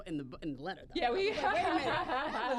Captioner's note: laughter